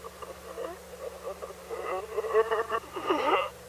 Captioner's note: distorted sobbing